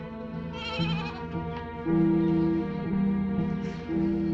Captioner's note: goat bleating